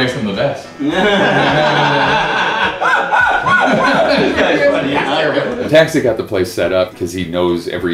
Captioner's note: laughter